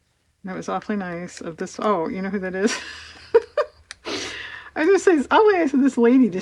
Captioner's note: laughs